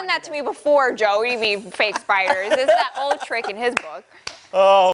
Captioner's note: laughter